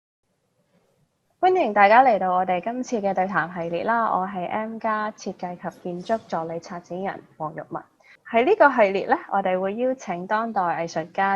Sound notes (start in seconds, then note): 1.8 Cantonese